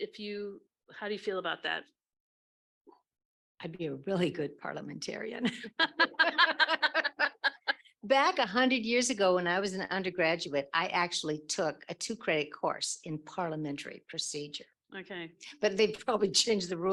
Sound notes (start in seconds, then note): 9.3 laughs